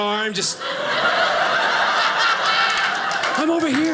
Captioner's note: audience laughing